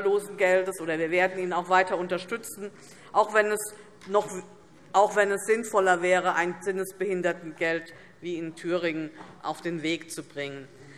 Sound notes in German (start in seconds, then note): none